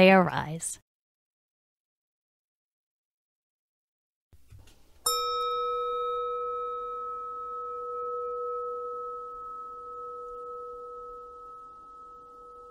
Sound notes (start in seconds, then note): 1.9 silence, then sound of a gong